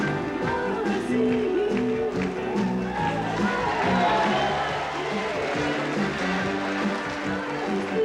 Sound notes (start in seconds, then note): 2.2 audience cheering